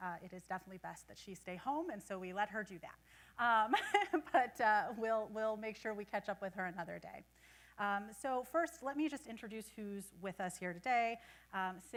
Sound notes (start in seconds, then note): 3.7 laughing